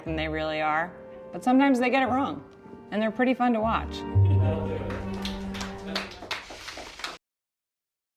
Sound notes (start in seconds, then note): 5.0 crew applauding